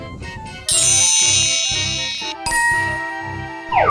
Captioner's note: futuristic zapping; magical ting